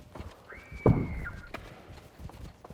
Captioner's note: audible screams